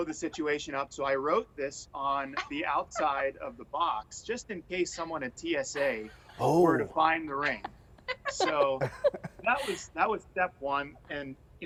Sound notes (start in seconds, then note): 2.9 laughter